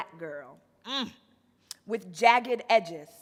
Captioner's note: moans